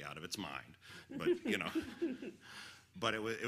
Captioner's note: audience giggles